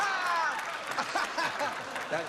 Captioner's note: jimmie laughing